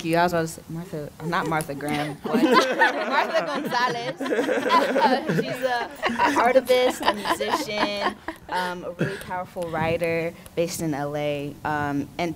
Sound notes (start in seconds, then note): 4.4 all laughing